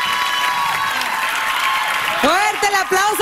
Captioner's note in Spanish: aplausos